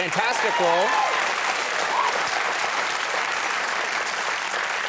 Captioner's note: audience clapping